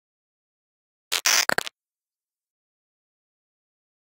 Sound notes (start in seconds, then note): 1.1 sound of static glitch